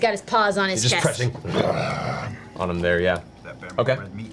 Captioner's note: growls